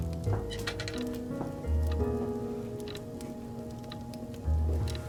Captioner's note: crackling fire, clock ticking